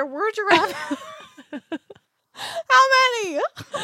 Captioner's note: laughs